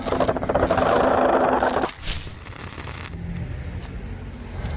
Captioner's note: portal sound